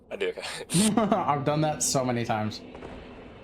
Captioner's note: chuckles